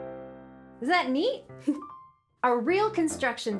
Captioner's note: giggles